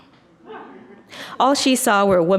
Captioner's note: audience laughs